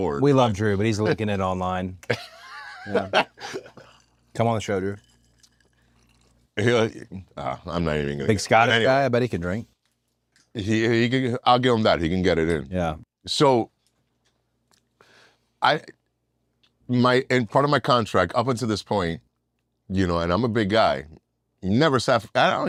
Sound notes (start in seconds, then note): 2.0 laugh